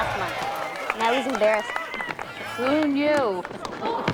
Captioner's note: chuckles